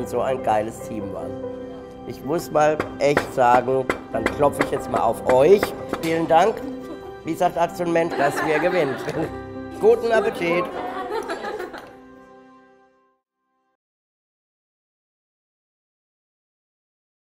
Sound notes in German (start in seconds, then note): 6.0 klopfen; 10.0 lachen